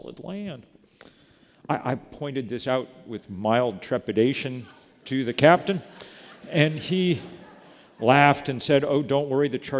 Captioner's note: laughter